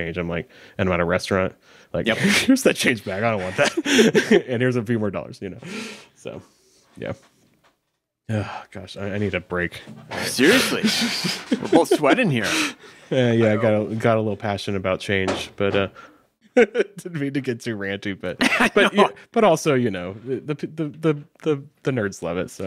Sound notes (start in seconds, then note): 16.7 laughing